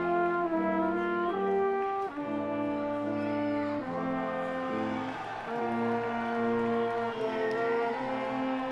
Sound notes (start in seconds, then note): 5.1 audience clamoring